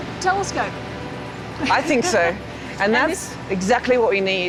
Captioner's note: laughs